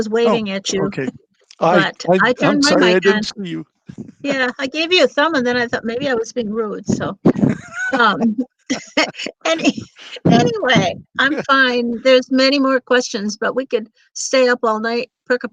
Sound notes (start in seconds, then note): 7.2 laughing